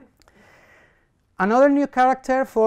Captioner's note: coughs